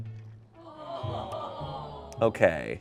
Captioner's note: audience exclaims